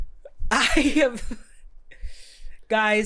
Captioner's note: stuttering